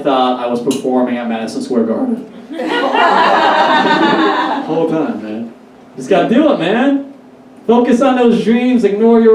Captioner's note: Audience Laughs - I wish I said Carnegie Hall instead